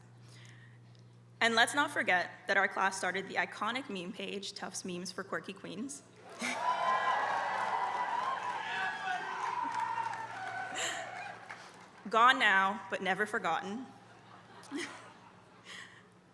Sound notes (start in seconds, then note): 6.3 applause; 15.3 laugh